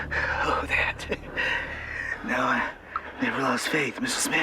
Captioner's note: says in a weak voice